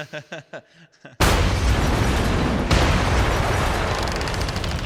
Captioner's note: bomb exploding